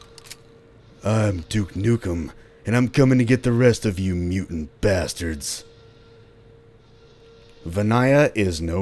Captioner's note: duke nukem voice